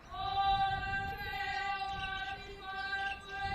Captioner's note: chanting